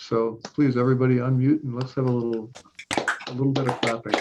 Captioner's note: clapping